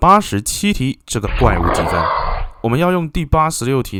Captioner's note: monster roar